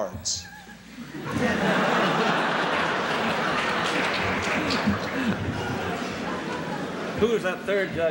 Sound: laughter; applause

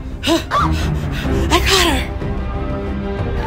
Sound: Maze Heavy Breathing

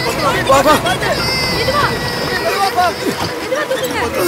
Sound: public chatter

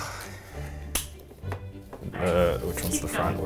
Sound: sighs nervously

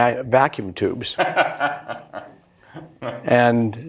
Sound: laughter

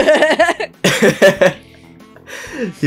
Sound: laughs

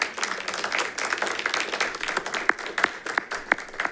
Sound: audience applauds

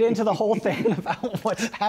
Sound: laughs

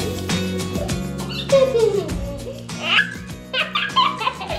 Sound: laughs

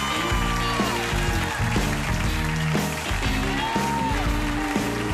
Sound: cheers and applause

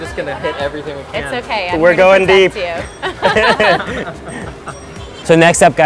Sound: laughs

